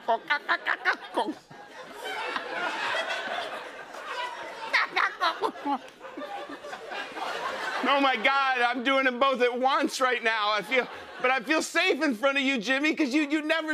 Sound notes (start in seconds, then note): 2.3 laughter